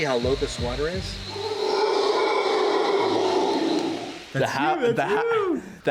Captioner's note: howler monkeys bellowing